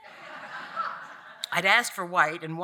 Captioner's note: audience laughing